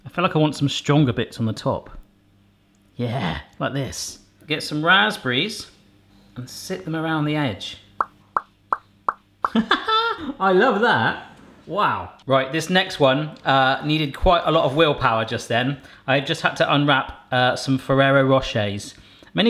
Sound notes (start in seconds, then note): 8.7 popping; 9.4 laughing